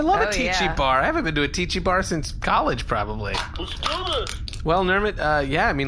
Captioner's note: crushing a can